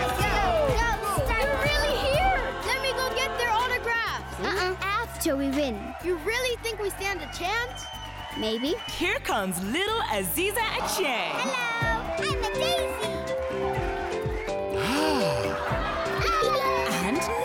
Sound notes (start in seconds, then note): 12.0 cheering; 14.6 crowd laughing; 17.2 cheering